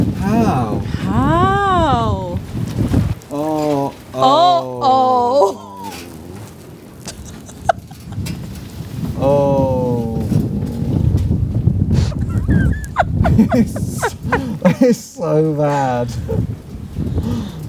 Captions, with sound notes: How? How? Oh. Oh. Oh. Oh. [laughs] It's so bad.